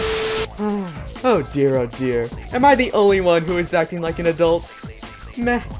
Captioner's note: sigh